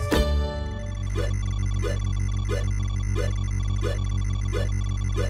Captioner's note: electronic blips